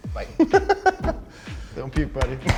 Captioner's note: laughs